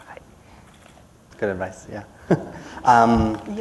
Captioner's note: laughter